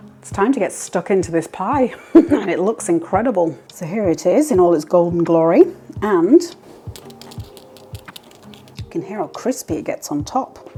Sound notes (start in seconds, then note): 6.7 tap tap tap